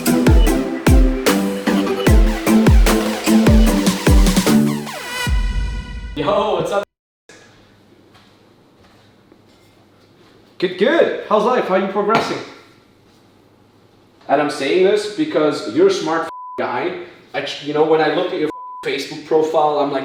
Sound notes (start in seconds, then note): 13.2 cup knocks on table; 16.3 beep; 18.5 beep